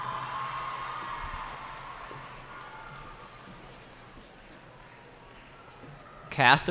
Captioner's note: cheering